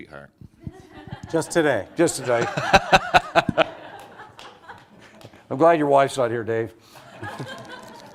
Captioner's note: laughter